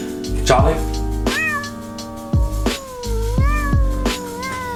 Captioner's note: cat meows